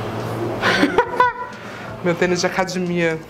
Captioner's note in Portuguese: risos